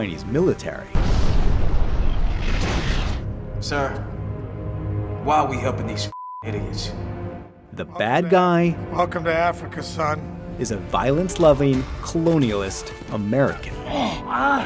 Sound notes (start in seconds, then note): 0.9 rocket booming; 6.1 beeping